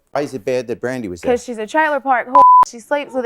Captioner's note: beep